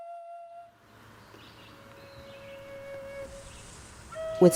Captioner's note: birds chirping